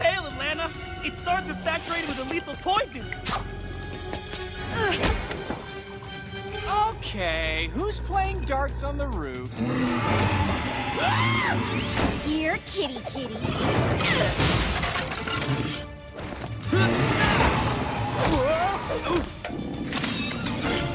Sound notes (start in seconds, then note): 10.1 screaming; 19.3 growling